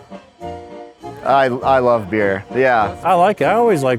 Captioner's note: stutters